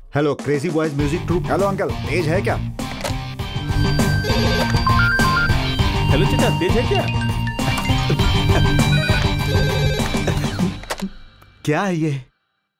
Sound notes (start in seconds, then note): 4.2 phone ringing; 7.2 phones ringng off the hook